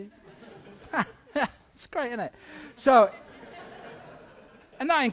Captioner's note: chuckles